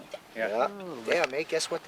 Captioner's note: voiceover